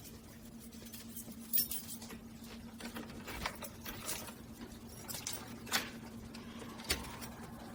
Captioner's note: keys jingling sound as unlocks the lab door